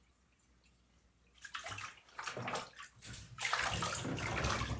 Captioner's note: water splashing